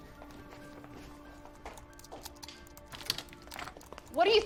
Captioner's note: typing